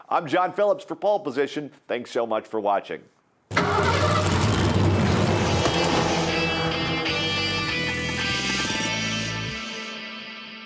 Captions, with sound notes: I'm John Phillips for Poll Position, thanks so much for watching. (engine starts) (energetic guitar riff)